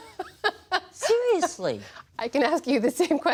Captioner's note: laughter